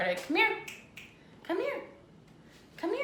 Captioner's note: fingers snapping